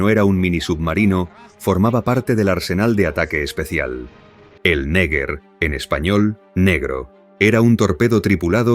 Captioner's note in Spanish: en español, Negro